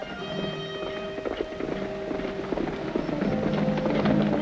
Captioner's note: galloping horses nearby; upbeat instrumental music